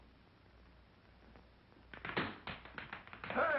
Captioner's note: tapping